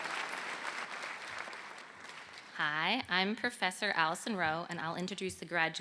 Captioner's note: applause